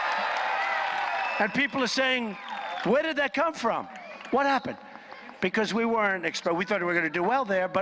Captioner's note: applause